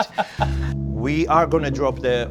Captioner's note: laughing